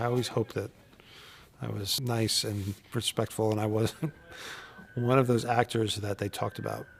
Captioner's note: laugh